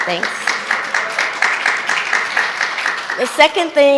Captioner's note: audience clapping